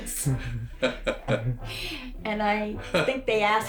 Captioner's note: both laugh